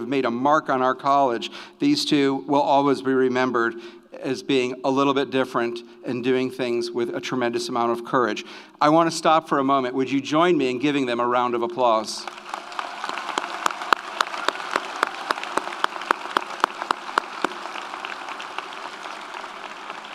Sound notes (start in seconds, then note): 12.2 audience applauds; 12.2 audience cheers